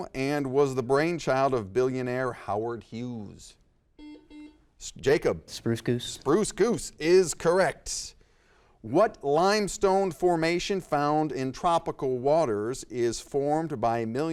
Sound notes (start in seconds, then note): 4.0 buzzer dings